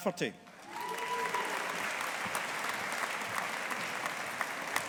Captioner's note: audience applauding